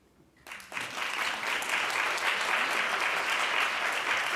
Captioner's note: applause